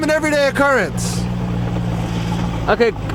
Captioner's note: car engine revving